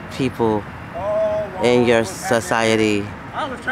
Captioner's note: talking loudly